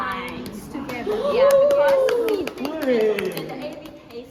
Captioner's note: cheers